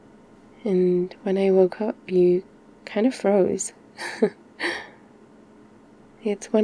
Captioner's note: laughs